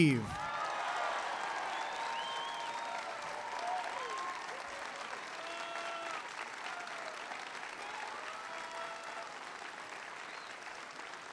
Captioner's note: applause